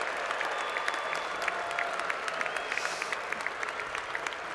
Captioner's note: cheers and Applause